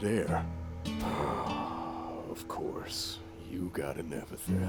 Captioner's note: sigh